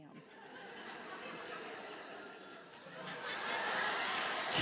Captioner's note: laughter and applause